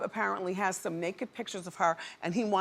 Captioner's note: none